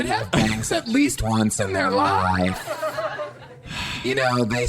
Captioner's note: Pleck sighs